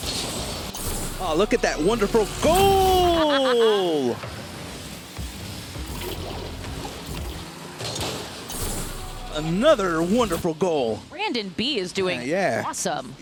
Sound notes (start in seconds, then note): 3.1 laughs